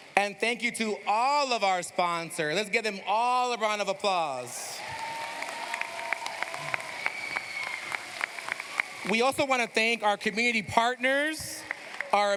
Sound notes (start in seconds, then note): 4.7 cheers, applause